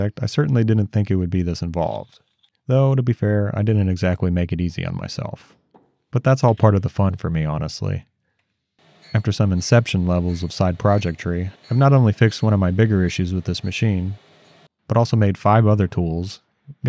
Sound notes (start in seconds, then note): 8.8 tool grinding